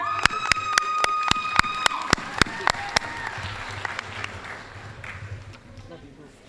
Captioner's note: applause, cheering